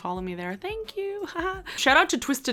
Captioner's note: giggles